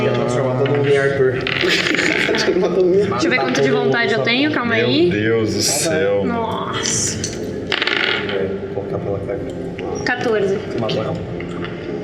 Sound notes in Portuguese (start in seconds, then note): 1.6 risos